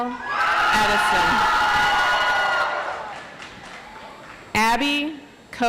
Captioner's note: audience applauds